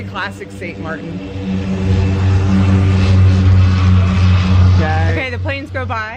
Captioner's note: airplane engine roaring